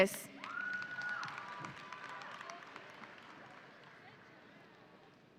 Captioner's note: audience applauding